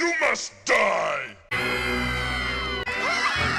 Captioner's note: kids Screaming